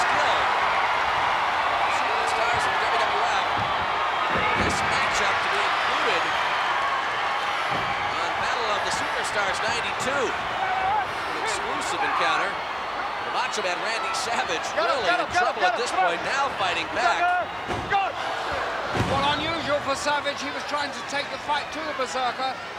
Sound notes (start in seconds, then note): 3.5 body thudding; 17.4 blows thudding; 17.5 body thudding